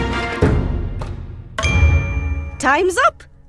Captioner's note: timer clicking